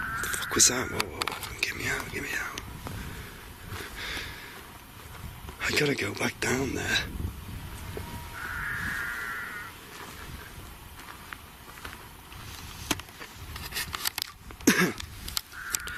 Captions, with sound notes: What the fuck was that, woah woah get me out, get me out. I'm gonna go back down there. (sheep bleating)